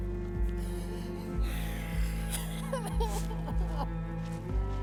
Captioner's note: cries